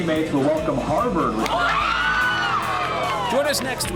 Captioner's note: cheers